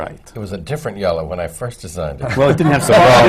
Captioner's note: laughter